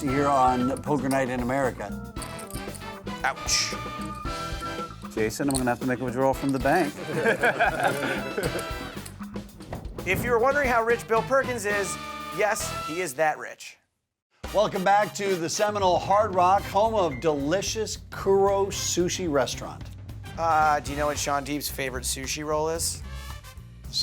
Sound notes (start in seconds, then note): 2.2 upbeat music; 6.8 players laughing